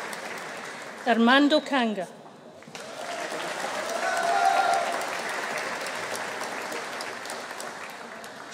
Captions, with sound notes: Ermando Canga. (AUDIENCE APPLAUDING) (AUDIENCE CHEERING)